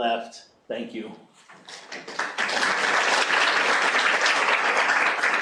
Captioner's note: applause